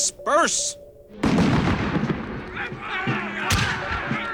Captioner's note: musket Fire